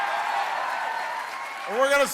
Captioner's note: cheering and applause